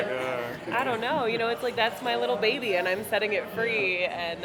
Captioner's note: laughs